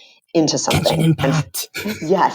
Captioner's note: whispering